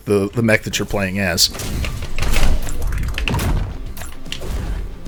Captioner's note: explosive game effects